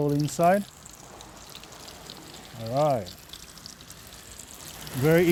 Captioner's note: oil sizzling